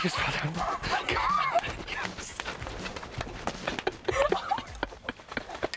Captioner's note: laugh